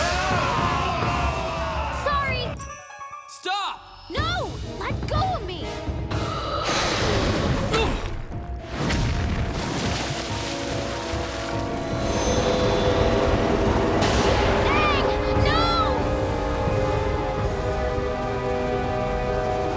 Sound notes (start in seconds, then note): 0.0 groaning, splashing; 7.6 groaning